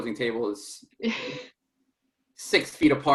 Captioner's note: chuckles